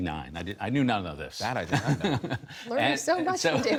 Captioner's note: laughter